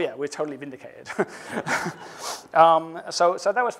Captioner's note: laughs